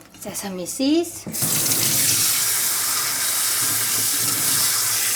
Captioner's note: tap running